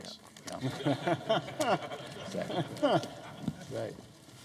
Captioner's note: laughter